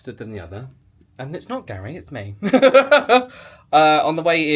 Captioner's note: laughs